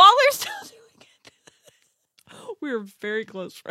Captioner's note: laughs